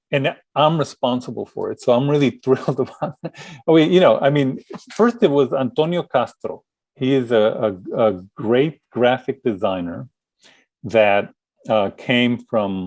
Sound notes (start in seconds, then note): 2.5 laughing